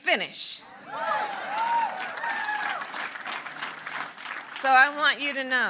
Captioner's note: applause